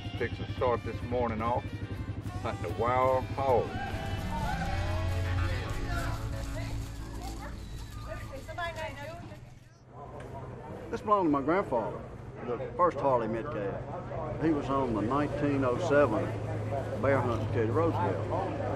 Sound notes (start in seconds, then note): 4.5 country music; 7.5 chatter